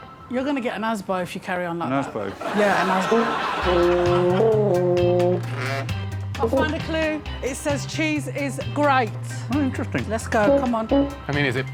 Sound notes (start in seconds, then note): 0.3 phone rings; 5.4 horn playing; 5.4 door creaks